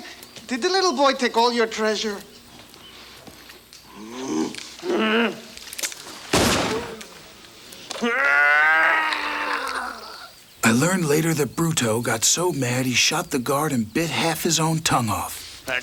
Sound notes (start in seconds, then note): 3.8 Bruto grunts; 4.8 gang member groans; 6.3 gun fires; 6.9 gang members murmur; 7.9 Bruto groans